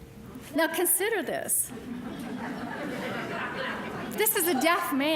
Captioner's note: audience laughing